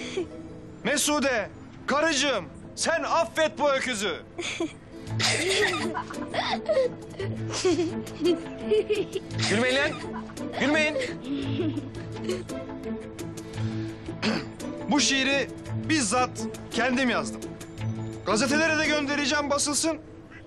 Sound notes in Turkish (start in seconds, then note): 5.2 Gülüşmeler